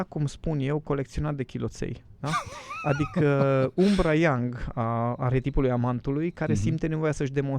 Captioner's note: laughter